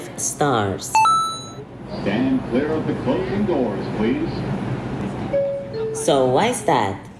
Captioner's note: subway speakers